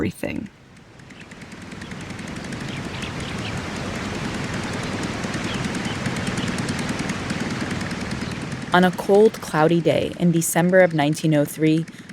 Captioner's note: soundbite of plane whirring